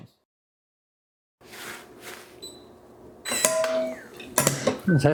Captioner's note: metallic clanging